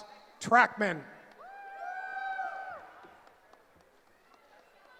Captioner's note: cheering